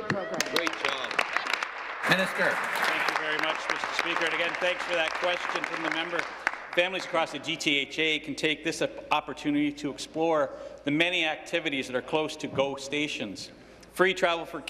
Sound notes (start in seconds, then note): 4.6 applause